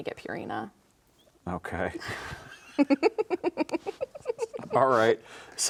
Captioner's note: both chuckling